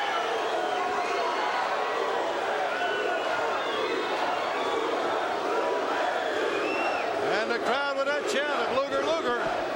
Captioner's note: crowd cheering